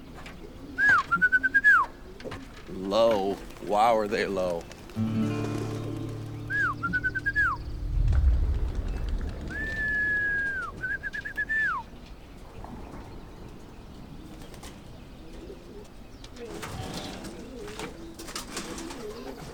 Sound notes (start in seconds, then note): 0.8 whistling; 5.0 guitar strum; 5.4 whistling; 8.5 wings rustling; 12.9 birds chirping; 12.9 pigeons cooing